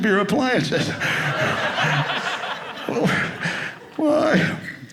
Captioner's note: audience laughing